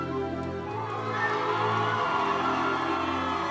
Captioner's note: cheers and applause